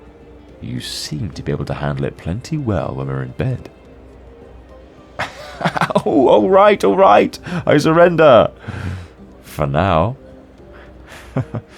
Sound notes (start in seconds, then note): 8.6 pained sounds